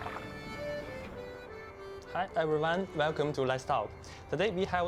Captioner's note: speaking Chinese